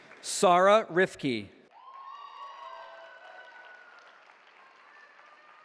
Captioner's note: cheering